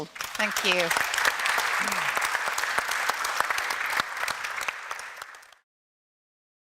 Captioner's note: audience applauds